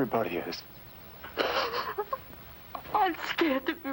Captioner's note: crying